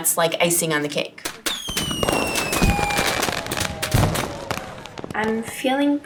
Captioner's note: fireworks exploding